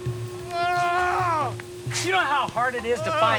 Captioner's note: groaning continues